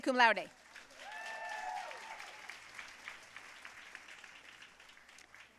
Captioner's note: audience cheering and applauding